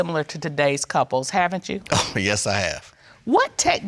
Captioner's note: chuckles